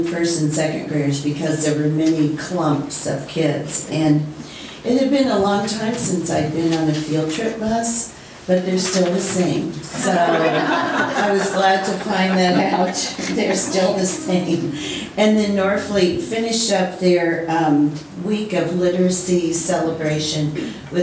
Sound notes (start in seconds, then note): 9.9 laughing